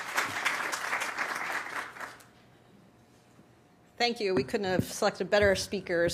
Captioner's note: applause